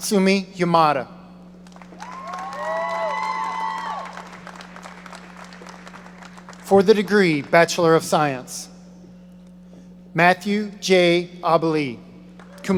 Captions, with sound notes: Natsumi Yamada. (audience applauding) For the degree, Bachelor of Science. Matthew J. Abele, cum laude.